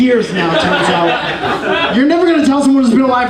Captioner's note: audience laughing